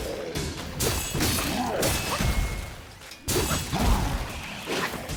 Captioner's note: sword clanking